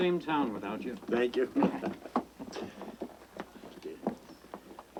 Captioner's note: chuckling